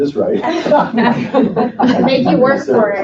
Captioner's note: laughing